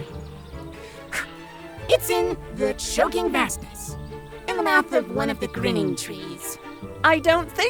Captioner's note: sigh